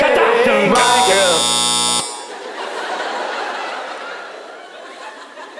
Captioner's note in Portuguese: campainha